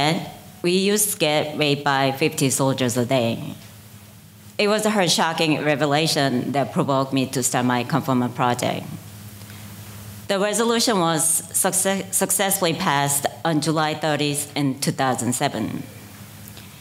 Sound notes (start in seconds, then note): none